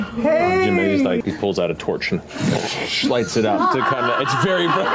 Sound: fwoosh

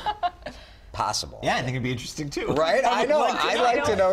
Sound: laughter

